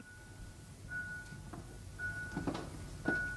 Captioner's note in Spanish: Suena una campana en la distancia